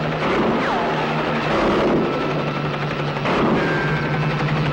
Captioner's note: gunshot pops